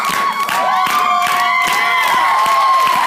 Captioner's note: cheering